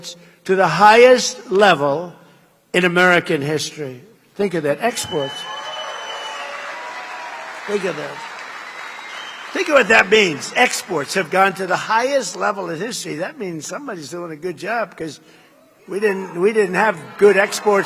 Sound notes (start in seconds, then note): 11.9 applause